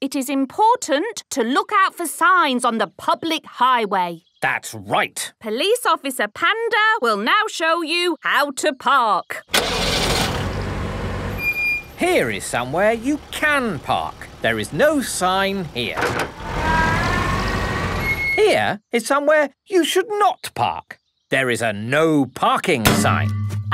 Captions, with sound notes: - It is important to look our for signs on the public highway. - That's right! - Police Officer Panda will now show you how to park. (car engine starting) - (breaks squeaking) - Here is somewhere you can park. There is no sign here. Here is somewhere you should not park. There is a ‘No Parking' sign.